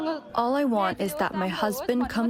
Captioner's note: through translator